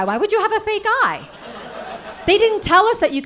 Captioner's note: audience laughing